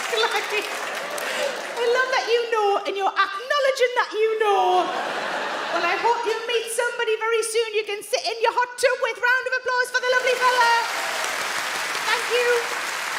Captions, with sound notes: - It gets claggy. I love that you know, and you're acknowledging that you know. And I hope you'll meet somebody very soon you can sit in your hot tub with. Round of applause for the lovely fellow. (audience clap) Thank you.